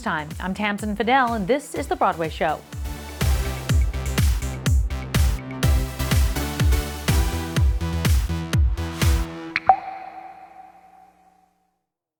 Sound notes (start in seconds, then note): 4.7 upbeat music; 7.9 logo sound effect